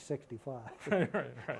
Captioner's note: laughter